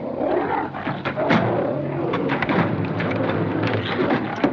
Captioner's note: banging